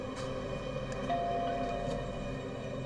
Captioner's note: doorbell